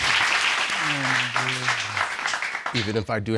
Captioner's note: applause